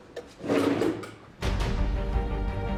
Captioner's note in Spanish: Ruido al cerrar cajón